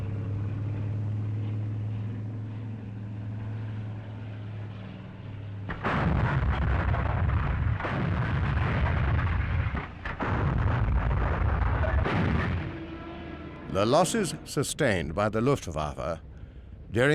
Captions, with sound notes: (bomb exploding) The losses sustained by the Luftwaffe